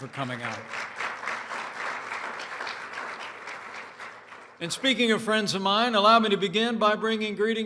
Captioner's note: applause